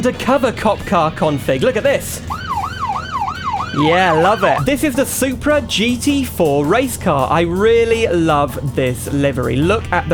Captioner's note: siren Noise